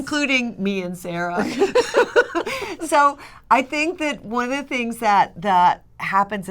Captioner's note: laughter